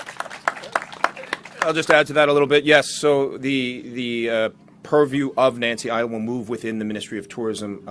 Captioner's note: applause